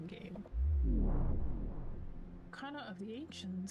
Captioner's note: vwoom!